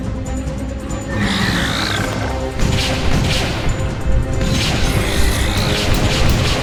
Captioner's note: gun firing; creature snarling